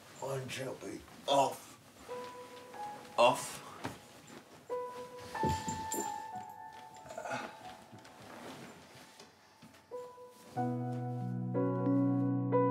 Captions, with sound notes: - Right, Shelby. Off. Off. (DELICATE PIANO MUSIC) (GROANS SOFTLY) (MUSIC BUILDS)